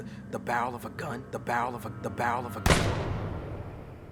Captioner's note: gunshot